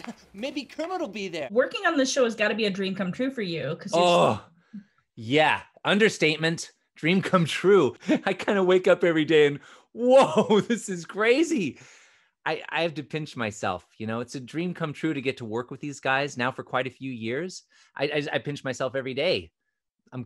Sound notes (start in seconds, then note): 3.9 groans